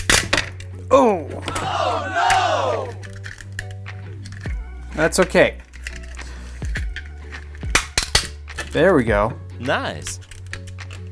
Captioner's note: silly voice: Nice!